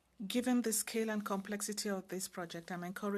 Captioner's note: speaking French